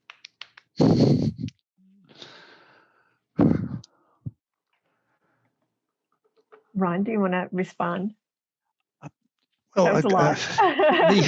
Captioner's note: chuckles